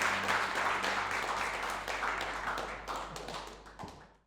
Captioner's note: applause